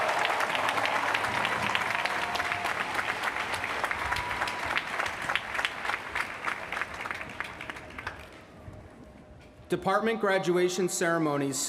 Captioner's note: cheers & applause